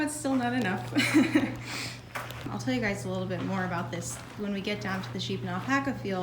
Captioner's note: laughing